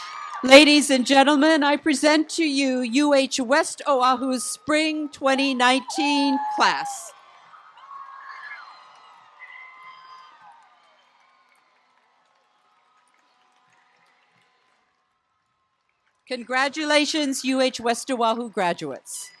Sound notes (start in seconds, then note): 7.0 applause and loud cheers